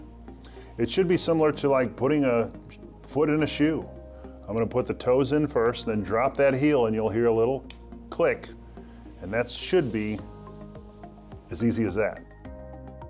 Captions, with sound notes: it should be similar to like putting a foot in a shoe I'm gonna put the toes in first then drop that heel in and you'll hear a little *click* and that should be as easy as that